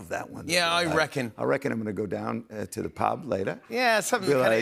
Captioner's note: Australian accent